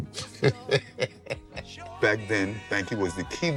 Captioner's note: laughs